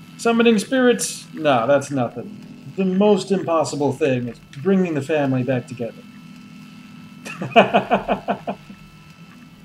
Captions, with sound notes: Summoning spirits? No, that's nothin'. The most impossible thing is bringing the family back together. [laughs]